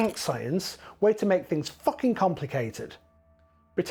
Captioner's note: flipping